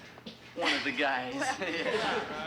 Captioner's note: laughing